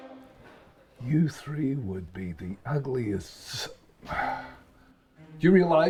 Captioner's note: sighs